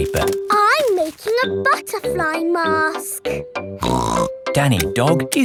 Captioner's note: snorts